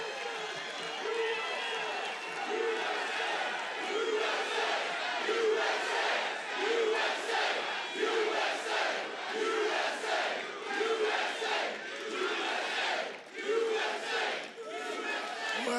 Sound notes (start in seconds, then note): 0.0 cheers and applause; 4.4 audience chants "USA"